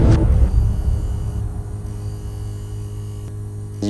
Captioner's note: music stops; interference